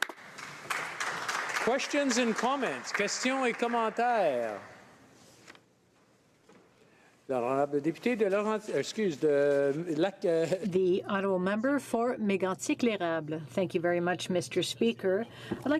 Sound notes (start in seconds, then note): 2.5 some Applause; 7.9 speaking French